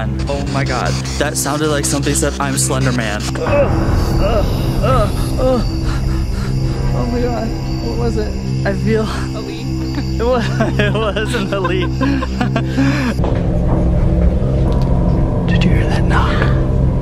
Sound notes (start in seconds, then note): 4.3 gasping; 9.8 laughs